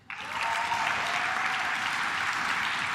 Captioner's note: claps